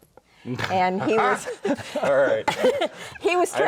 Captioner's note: sighs; laughs